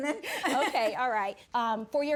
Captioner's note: judge faith laughing; laughing